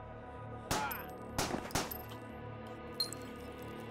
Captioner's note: gun firing